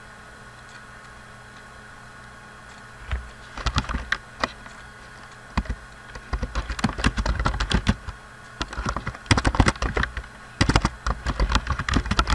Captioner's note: typing